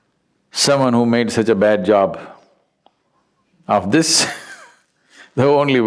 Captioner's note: laughs